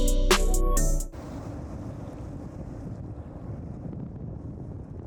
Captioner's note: title theme; wind blowing